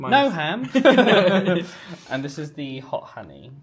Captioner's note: both laughing